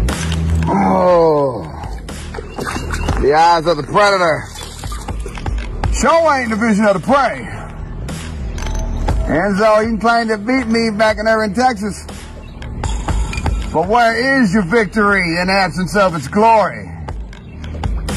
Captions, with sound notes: (groans) (splashing) The eyes of the predator... showing the vision of the prey. nZo he can claim to beat me back in Irving, Texas, but where is your victory in absence of its glory?